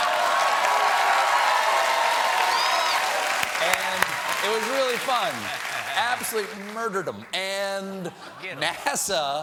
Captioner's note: cheers and applause